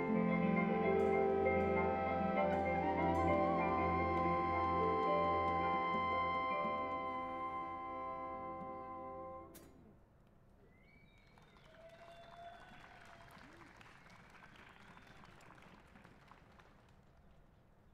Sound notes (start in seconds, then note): 11.2 cheers and applause